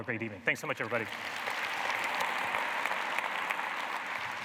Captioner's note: applause